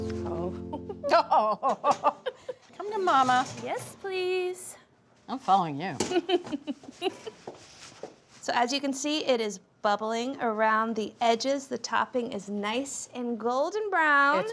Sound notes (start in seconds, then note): 1.4 laughs; 6.1 laughs